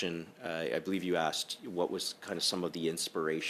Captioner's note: speaking French